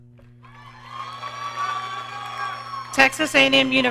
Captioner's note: audience cheering